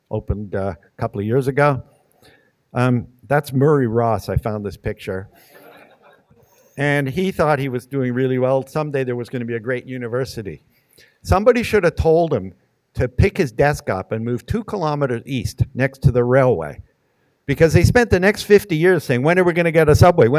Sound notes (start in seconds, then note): 5.4 audience laughing